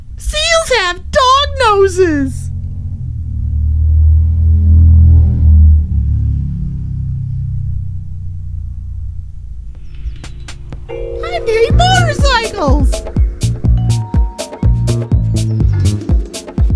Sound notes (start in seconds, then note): 3.0 motorcycle outside rudely interrupts